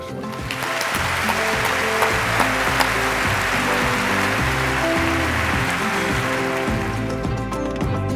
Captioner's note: applause